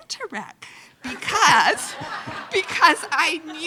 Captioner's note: loudly laughing